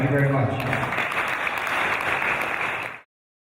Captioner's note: applause